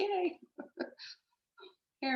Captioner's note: chuckles